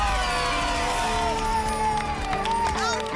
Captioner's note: applause and cheering